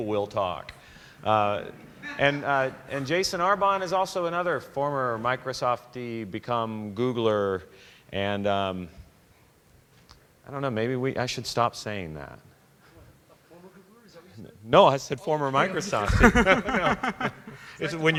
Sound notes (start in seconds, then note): 1.5 laughter